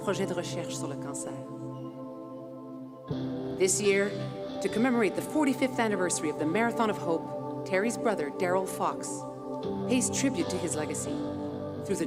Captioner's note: speaking French